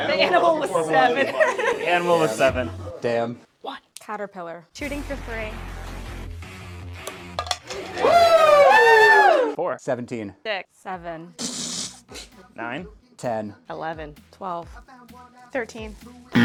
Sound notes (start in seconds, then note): 3.6 whispering; 7.8 whooping and cheering; 11.4 fart